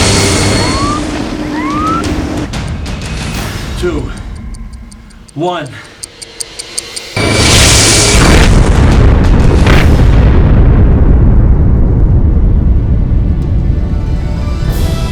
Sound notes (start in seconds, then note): 6.6 torpedo speeds; 6.6 watch ticks; 9.5 explosion